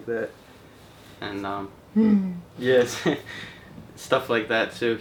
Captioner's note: humming; laughing